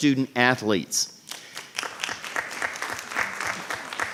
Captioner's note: applause